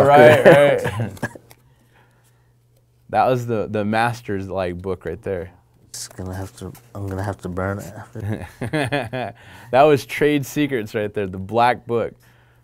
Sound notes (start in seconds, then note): 8.1 laughing